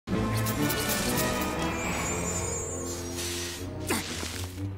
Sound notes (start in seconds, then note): 0.3 scissor cuts